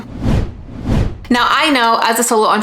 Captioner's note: digital whooshing